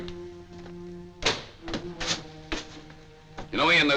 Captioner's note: door bangs shut